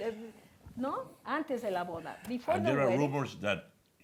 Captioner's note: spanish